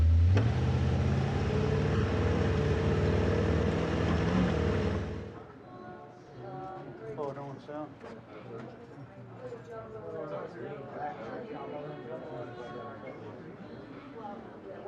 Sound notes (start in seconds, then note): 0.0 engine rumbling; 6.3 people chattering